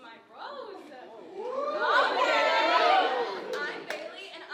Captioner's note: audience cheering